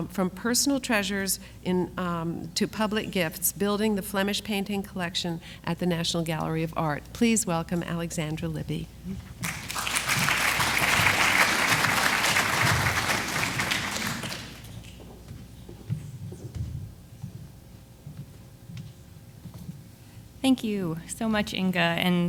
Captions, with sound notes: From Personal Treasures to Public Gifts: Building the Flemish Painting Collection at the National Gallery of Art. Please welcome Alexandra Libby. (audience applauds) - Thank you so much Inga,